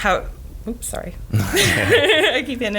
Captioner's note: laughs